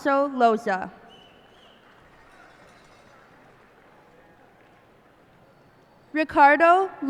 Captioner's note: cheers and applause